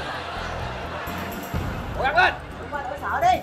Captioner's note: laughing